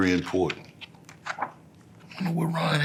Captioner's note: pages rustling